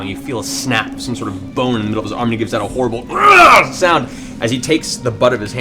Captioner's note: yells